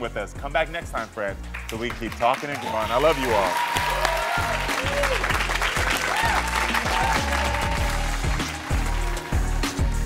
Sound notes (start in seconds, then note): 2.3 crowd cheering; 3.5 upbeat music